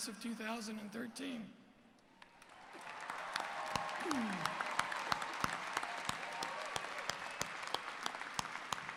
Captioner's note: cheers and Applause